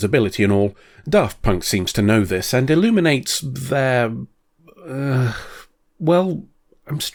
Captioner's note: sigh